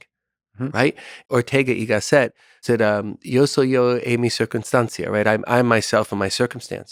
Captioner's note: speaking foreign language